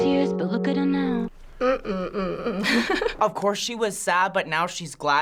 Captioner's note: laughs